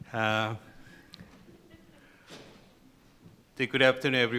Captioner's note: laughter